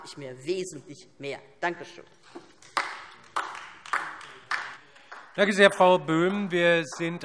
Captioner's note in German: Beifall DIE LINKE